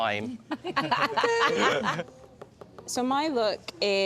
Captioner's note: laughter